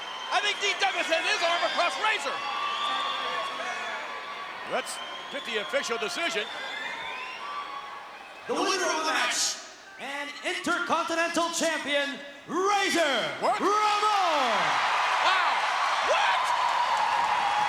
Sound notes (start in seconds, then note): 2.5 crowd yelling; 13.4 crowd cheering